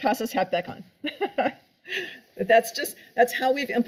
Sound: laughs

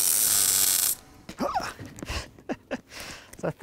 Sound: laughs; grunts

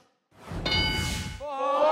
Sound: buzzer dings

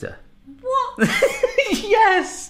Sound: laughing

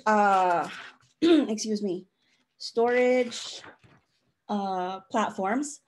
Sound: clears throat

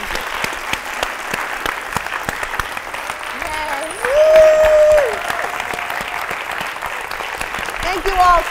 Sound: applause

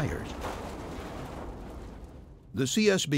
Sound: sound of explosion

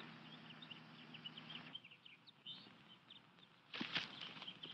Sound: birds chirping

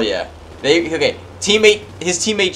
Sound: stuttering

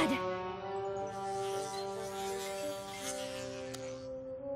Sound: buzzing noise

